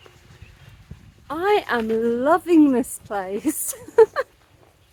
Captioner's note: laughing